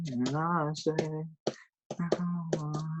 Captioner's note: typing on keyboard